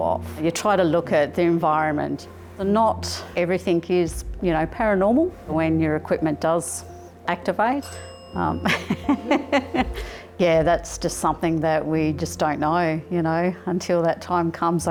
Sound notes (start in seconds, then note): 7.8 bell; 8.7 laughs